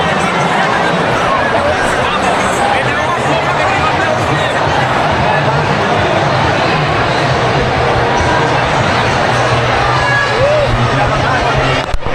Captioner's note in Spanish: ovación